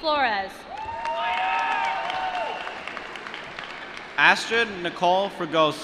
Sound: applause

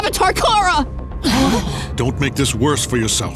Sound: gasping

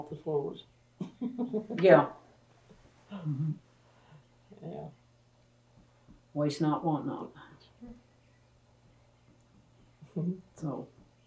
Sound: laughter

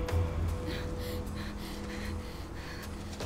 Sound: Googly breathing heavily

